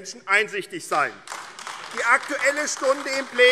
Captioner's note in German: Beifall AfD